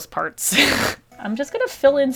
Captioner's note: laughs